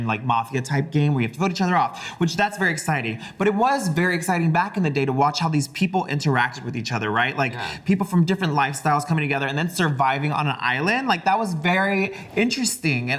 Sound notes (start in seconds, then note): none